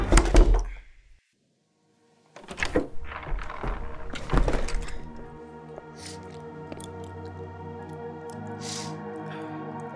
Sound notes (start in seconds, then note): 0.3 knocking at door; 2.4 door rattles and creaks open